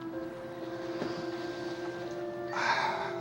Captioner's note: sighs